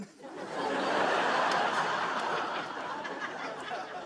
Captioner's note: audience laughing